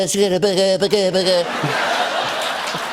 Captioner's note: speaking gibberish; laughter and applause; normal voice